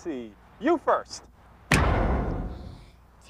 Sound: lould, short bang

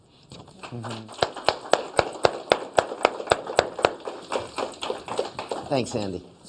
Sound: applause

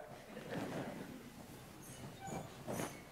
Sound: laughter

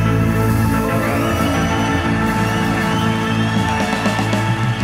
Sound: crowd whistles and cheers

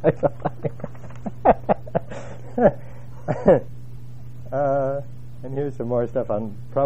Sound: laugh

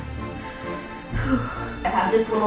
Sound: exhales

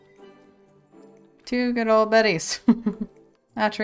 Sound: laughs

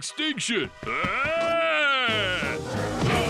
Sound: screaming

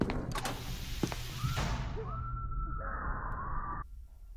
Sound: more faint screaming

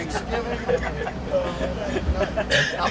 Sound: laughter

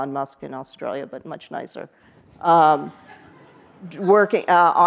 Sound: audience laughs

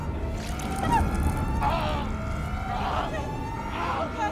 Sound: screaming

